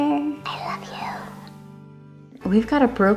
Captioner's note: whispers longingly